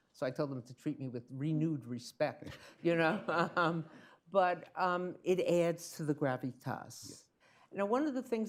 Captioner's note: laughter